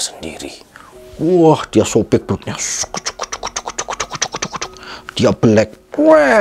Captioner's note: made a dramatic sound